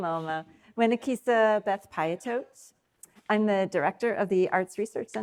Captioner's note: speaking in foreign language